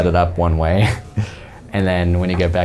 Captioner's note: chuckles